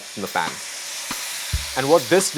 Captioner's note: food sizzling